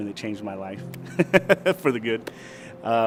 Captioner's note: laughs